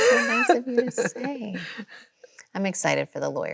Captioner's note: Chloe laughs